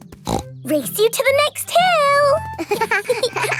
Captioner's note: snorts; both laughing